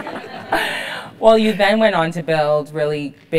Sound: laugh

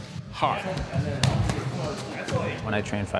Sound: gloves smacking

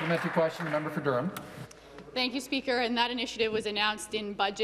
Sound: some Applause

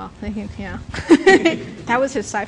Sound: laughter

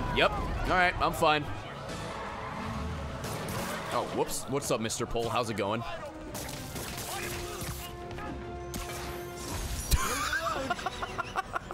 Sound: laughs

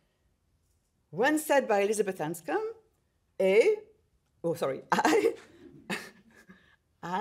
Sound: chuckles

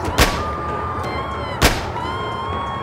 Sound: screaming; gunshot; gunshot

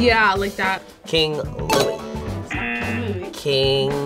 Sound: klaxon sounds

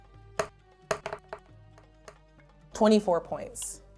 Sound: dice rolling

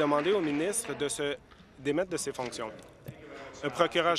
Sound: applause

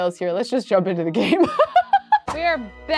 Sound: laughing

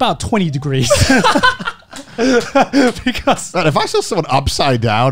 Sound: laughing

